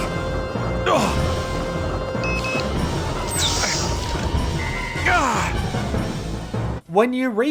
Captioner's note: tracker beeping, door opens, distress signal activates